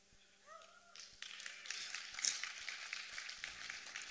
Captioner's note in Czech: potlesk